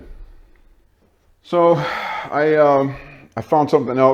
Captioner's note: sigh